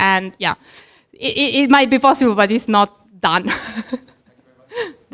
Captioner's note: laughs